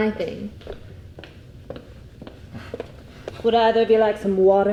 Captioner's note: footsteps plodding